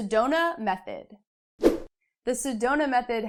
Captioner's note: air whooshing